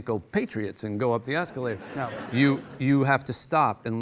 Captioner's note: audience laughing